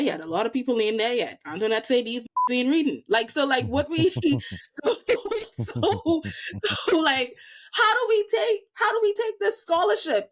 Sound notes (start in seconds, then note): 2.3 beep